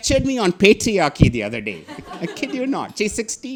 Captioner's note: audience laughing